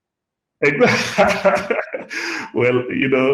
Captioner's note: laughs